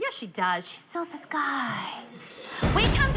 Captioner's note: whispering